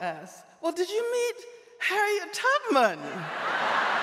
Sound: laughs; audience laughing

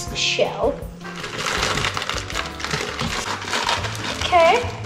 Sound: crunching

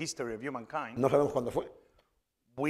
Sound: speaking spanish

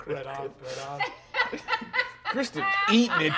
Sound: laughing

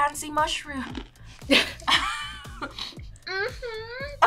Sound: both laugh

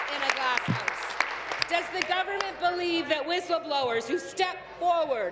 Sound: applause

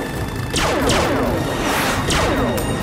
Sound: whoosh

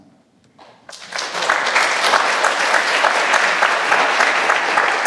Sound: audience applauds

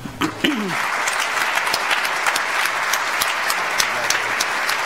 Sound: audience applauds

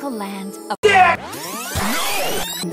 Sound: rewinding

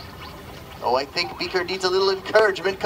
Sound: machine noises

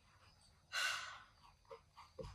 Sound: sighs

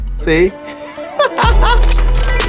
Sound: intro music plays; laughs

